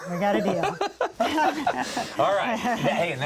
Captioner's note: laughs